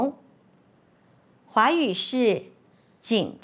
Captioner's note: in Mandarin